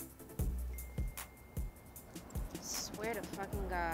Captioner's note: cellphone dings